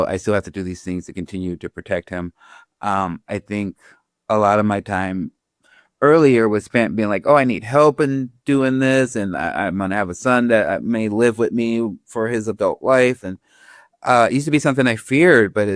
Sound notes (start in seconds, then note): none